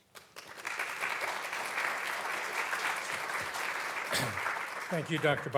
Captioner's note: audience clapping